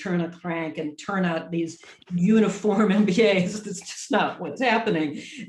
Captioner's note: laughs